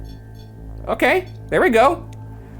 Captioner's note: device beeps